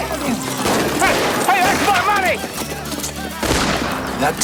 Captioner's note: guns fire rapidly